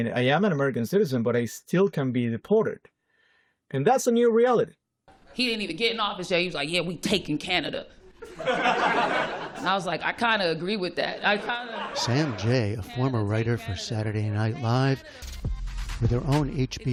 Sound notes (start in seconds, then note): 8.1 laughter